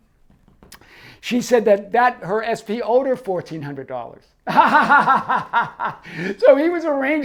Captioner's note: laughs